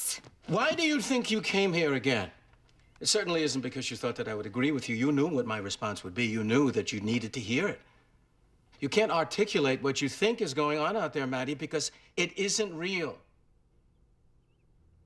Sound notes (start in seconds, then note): none